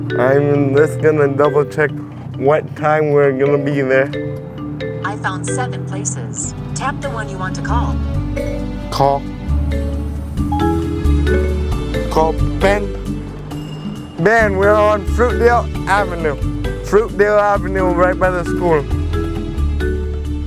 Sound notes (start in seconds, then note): 10.5 phone chimes